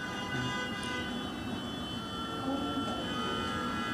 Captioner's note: car horns